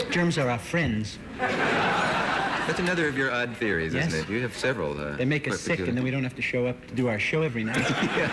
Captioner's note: laughter